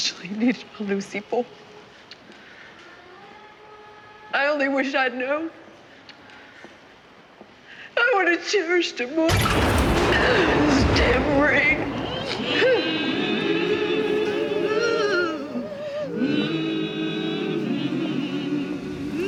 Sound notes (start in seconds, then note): 9.3 thunder; 12.2 sobs